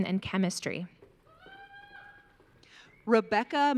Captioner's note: audience cheering